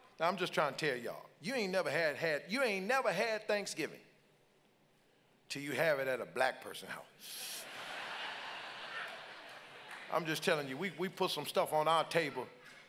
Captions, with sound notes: Now I'm just trying to tell y'all, you ain't never had, you ain't never had Thanksgiving 'til you have it at a Black person house. (congregants laugh) I'm just telling you, we put some stuff on our table